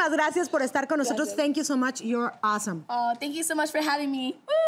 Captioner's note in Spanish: Hablan en inglés